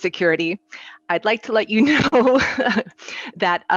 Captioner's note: chuckles